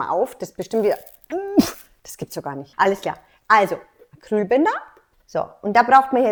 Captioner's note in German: schnaubt